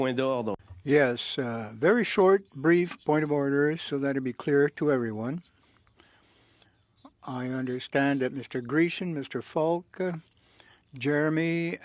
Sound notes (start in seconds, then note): 4.7 speaking French